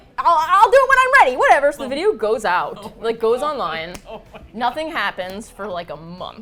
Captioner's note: laughs